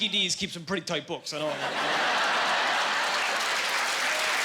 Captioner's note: laughing